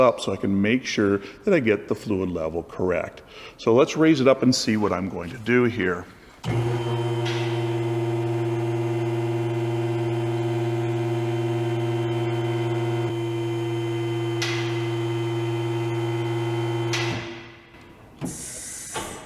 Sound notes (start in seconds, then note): 6.4 lift noise